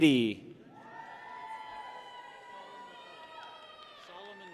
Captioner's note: people cheer